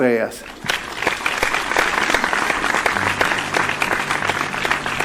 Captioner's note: applause